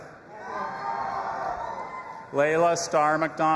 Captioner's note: audience applauding and cheering